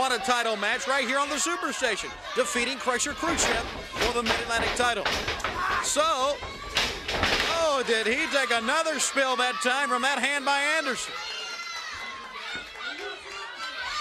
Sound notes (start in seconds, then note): 5.7 crowd chatter